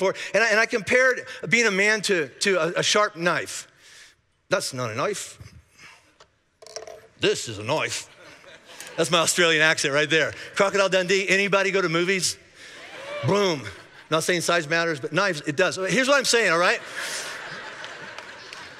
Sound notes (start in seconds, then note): 8.0 congregation laughing; 12.7 congregation cheering; 16.5 congregation laughing